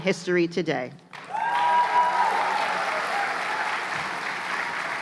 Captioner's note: cheers and applause